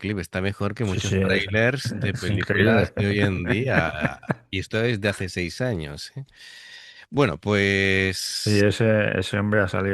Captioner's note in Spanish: risas